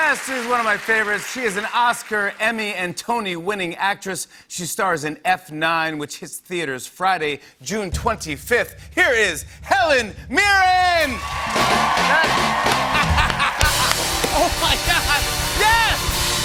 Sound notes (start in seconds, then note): 11.0 cheers and applause; 12.5 laughs